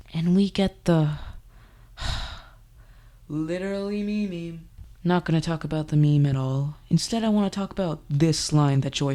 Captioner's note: sigh